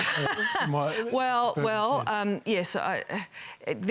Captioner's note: laughs